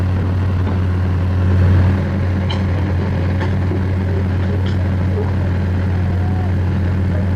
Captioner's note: engine rev